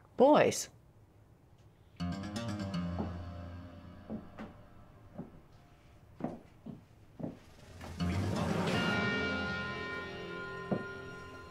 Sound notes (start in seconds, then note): 2.0 tense foreboding music; 5.0 footsteps approaching; 7.6 tense dramatic music